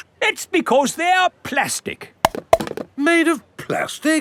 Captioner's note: clunks